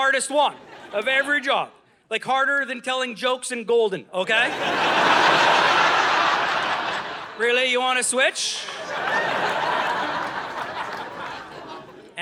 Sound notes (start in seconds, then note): 4.3 audience laughing